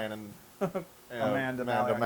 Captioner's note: laugh